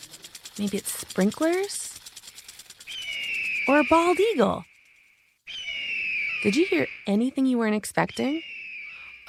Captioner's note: eagle sound